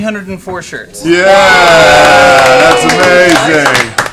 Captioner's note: cheering